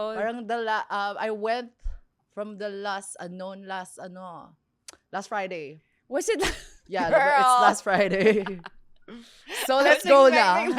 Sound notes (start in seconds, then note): 7.0 laughs